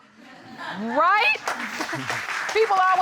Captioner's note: audience laughing